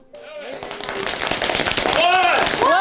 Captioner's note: farmers clapping loudly on their legs